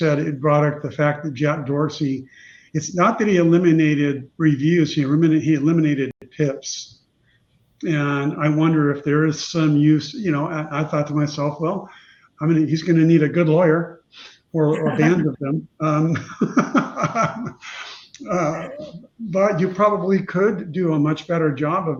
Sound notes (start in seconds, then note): 16.3 laughing